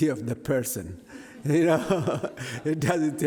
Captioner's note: laughs